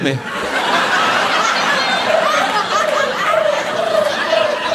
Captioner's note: audience laughing